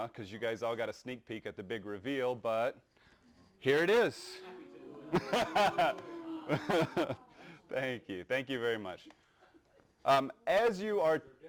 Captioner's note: oo's and ahh's